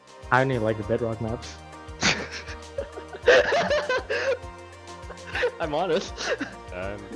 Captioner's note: laughter